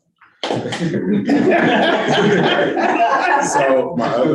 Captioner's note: all laughing